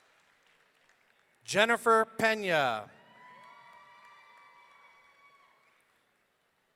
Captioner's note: audience cheering